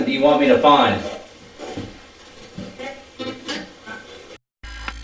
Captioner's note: static playback transmitting; static fizzing